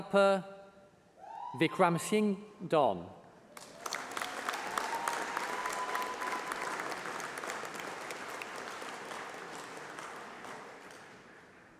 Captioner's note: applause